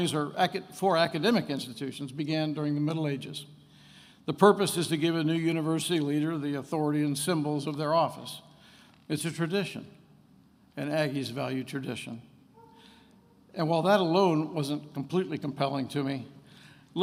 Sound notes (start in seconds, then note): none